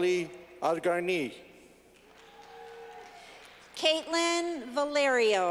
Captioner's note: clapping